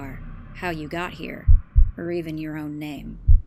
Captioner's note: heartbeat sound effect